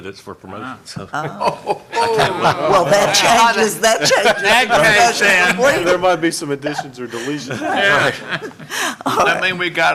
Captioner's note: laughter